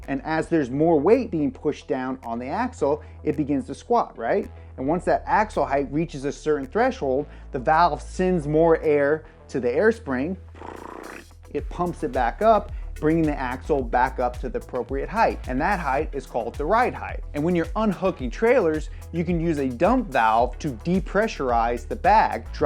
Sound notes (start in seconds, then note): 9.9 mimics valve